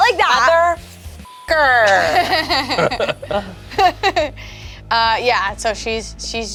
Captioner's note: beep; laughs